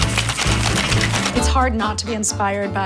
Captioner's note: rattling ice cubes